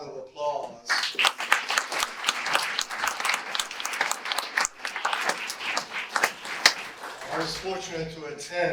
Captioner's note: audience applause